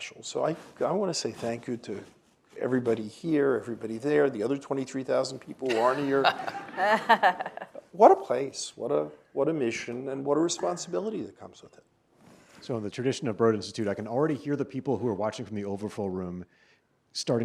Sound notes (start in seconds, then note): 5.7 audience laughs